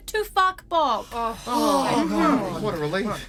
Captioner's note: everyone exclaims, relieved